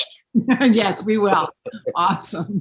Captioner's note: laughing